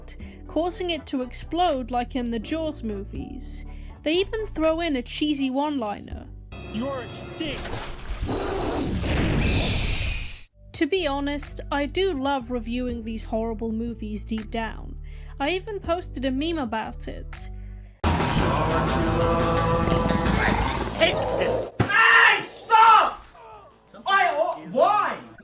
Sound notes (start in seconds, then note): 8.2 shark roars